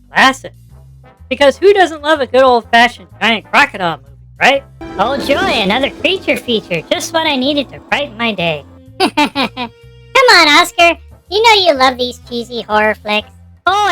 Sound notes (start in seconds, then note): 5.2 sarcastically; 10.6 laughing